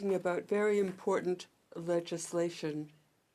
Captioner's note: speaking French